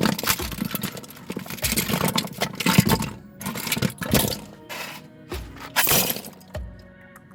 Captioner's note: Smashing LEGO sounds